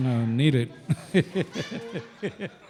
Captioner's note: chuckle